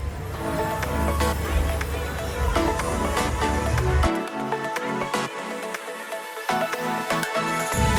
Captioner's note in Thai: ปรบมือ